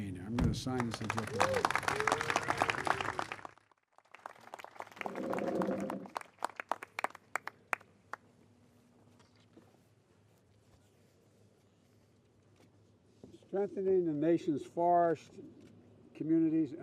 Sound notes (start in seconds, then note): 6.7 applause